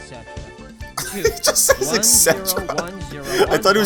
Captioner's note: laughing